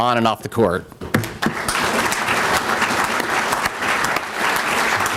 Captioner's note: applause